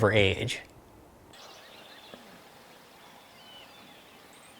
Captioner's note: birds tweeting